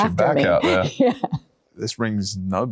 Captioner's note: laughing